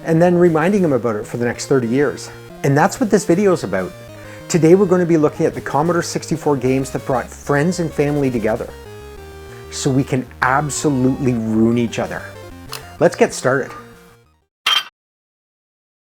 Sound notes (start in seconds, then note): 14.6 clank